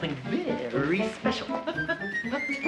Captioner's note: laughs